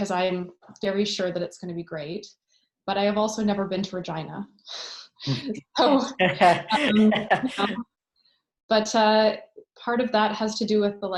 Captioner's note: laughter